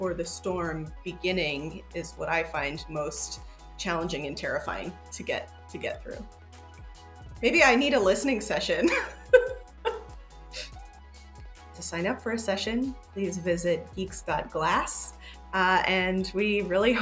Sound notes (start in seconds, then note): 8.8 laughs